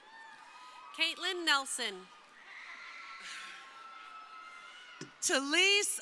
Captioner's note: crowd cheering